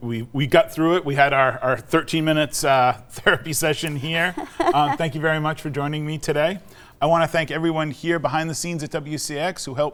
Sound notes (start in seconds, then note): 3.9 laughing